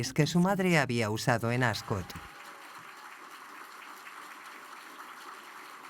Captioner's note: audience applauds